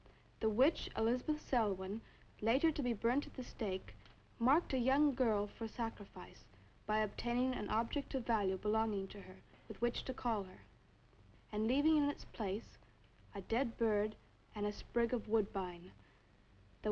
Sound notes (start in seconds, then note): none